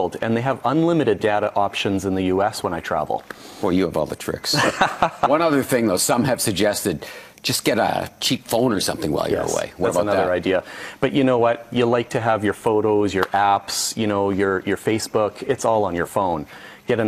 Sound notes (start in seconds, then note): 4.5 laughing